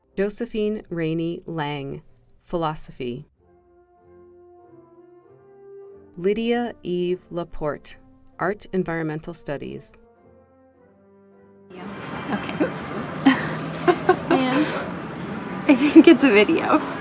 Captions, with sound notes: Josephine Rainey Laing, Philosophy Lydia Eve Lapporte, Art-Environmental Studies Okay. (hiccups) (chuckles) I think it's a video.